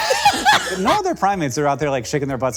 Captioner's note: Hank laughing